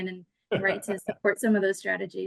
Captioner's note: laughs